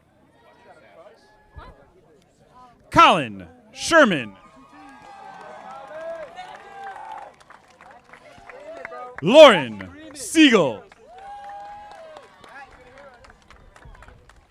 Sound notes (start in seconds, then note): 3.0 audience applauding; 10.2 audience applauding